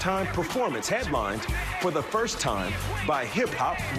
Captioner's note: cheers